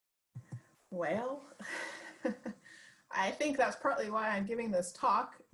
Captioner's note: laughs